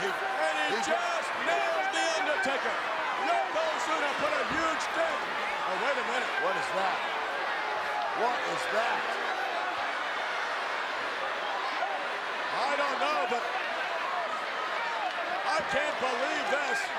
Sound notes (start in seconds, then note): 9.1 applause